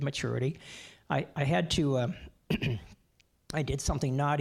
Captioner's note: clearing throat